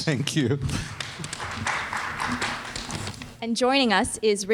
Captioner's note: audience clapping